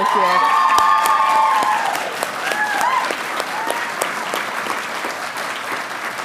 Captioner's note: audience cheering and applauding